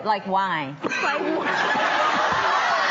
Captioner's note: coughing